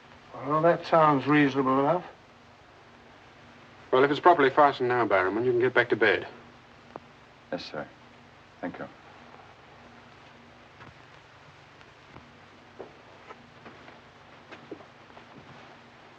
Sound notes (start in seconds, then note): none